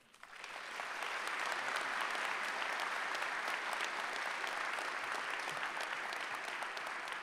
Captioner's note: applause